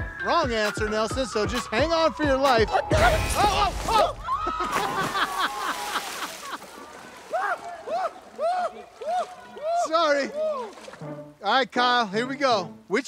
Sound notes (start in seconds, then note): 3.0 screams; 4.5 laughs; 5.5 screams